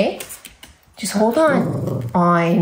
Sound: dog grumbling

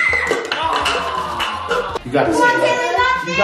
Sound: groans

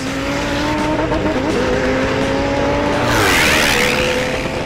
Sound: car engines roaring; plane engine roaring

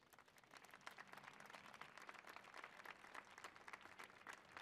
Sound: audience applauding

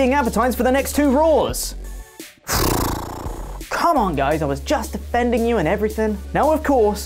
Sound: sigh

